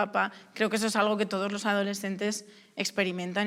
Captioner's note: none